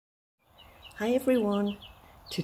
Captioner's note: birdsong sounds